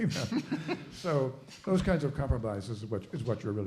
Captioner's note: laughing